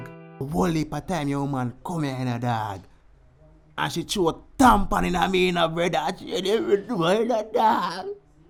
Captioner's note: crying